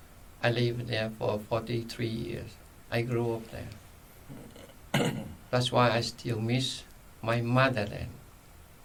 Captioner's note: clears throat